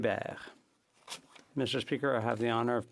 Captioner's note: speaking French